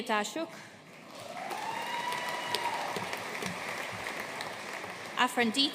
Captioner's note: audience cheering and applauding